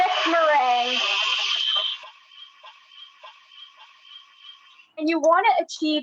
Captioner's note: kitchen mixer whirling